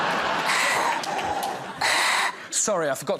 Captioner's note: laughter; breathes heavily